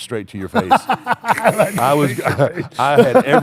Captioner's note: laughs